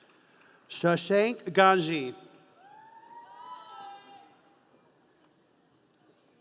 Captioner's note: audience cheering